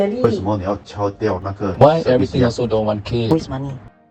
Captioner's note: in Mandarin